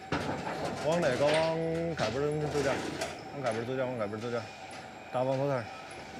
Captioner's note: speaking foreign language